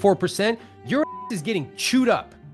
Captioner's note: beep